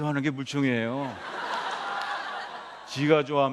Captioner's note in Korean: 웃음